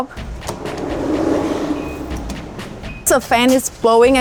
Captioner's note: fan whirring